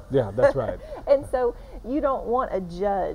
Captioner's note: laughing